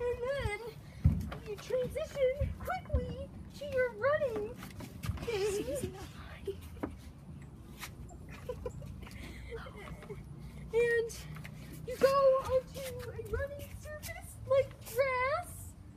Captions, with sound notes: and then, you transition quickly to your running thing *laughs for a while* and, you go onto a running surface like grass